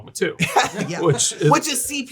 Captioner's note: laughing